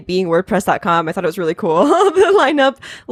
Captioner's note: laughs